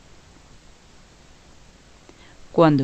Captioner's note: no audio